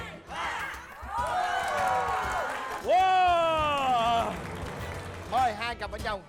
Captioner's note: applause